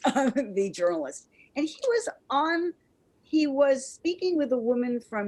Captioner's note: chuckles